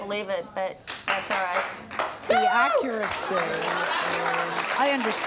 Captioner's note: cheers